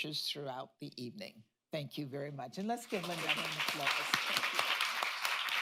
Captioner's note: applause